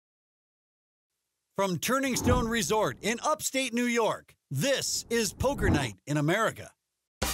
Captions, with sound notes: - [Voiceover] From Turning Stone Resort in upstate New York this is Poker Night in America.